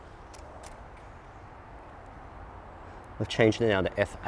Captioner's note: clicking